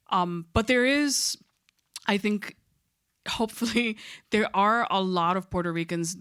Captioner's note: chuckles